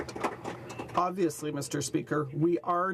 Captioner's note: some Applause